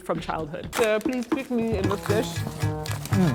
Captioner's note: French accent